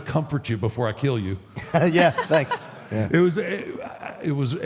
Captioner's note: Michelle laughs